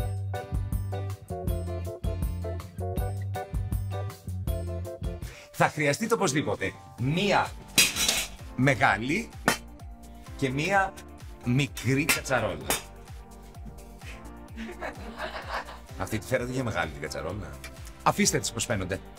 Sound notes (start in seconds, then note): 14.5 laughter